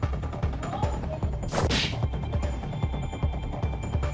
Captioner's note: epic slap